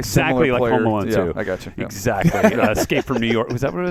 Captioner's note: laughs